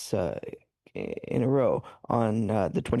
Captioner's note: speaking French